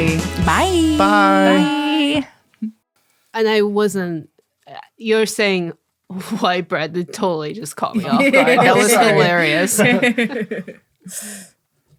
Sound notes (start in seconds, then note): 10.7 laughing